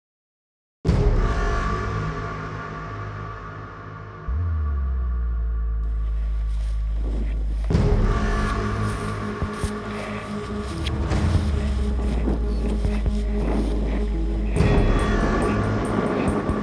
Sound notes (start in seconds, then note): 0.0 suspenseful music; 6.5 wind whooshing; 9.3 fabric scraping; 12.0 wind whooshing